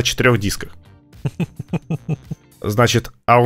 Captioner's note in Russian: Смех